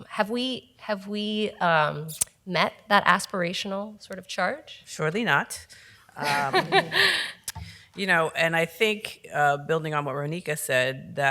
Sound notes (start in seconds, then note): 6.2 laughs